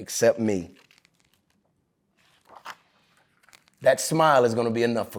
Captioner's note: pages rustling